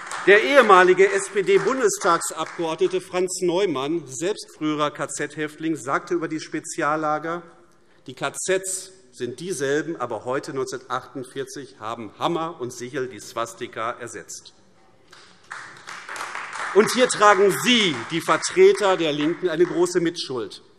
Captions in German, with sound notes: Der ehemalige Bundestagsabgeordnete Franz Neumann, selbst früher KZ-Häftling, sagte über die Speziallager: Die KZs sind dieselben, aber heute, 1948, haben Hammer und Sichel die Swastika ersetzt. [Beifall AfD] Hier tragen Sie, die Vertreter der LINKEN, eine große Mitschuld.